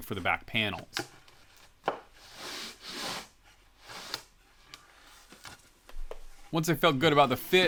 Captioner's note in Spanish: Madera contrachapada deslizándose hacia adelante y hacia atrás